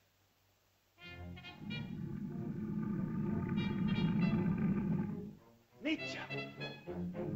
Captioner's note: lizard growls; whimsical music; lizard grumbles; speaks in caveman language; suspenseful music